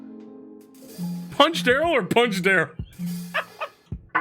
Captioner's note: laughs